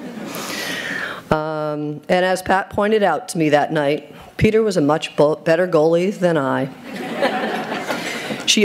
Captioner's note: chuckles